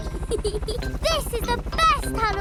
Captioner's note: peppa giggles